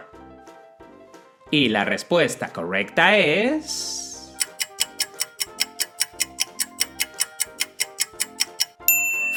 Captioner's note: clock ticking sound